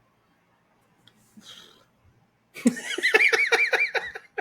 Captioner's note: laughing